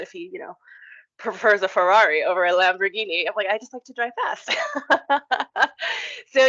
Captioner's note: laugh